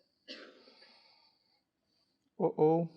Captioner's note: student coughing